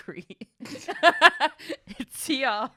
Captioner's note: laughs